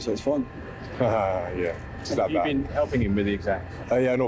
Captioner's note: laughs